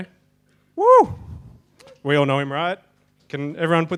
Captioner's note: person cheering